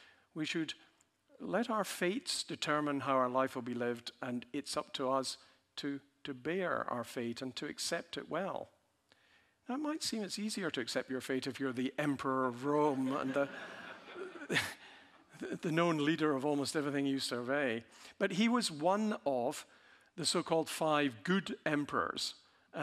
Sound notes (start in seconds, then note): 12.7 audience laughing